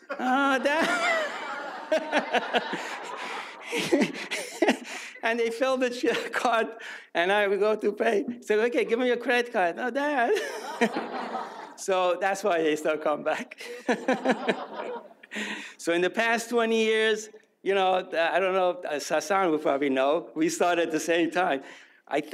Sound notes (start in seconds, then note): 0.0 audience laughs; 3.1 laughs; 10.3 audience laughs; 13.6 laughs; 13.6 audience laughs